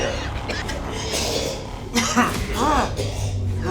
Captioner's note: coughing